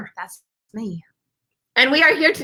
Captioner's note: none